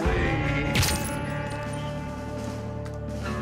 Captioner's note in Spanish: Disparo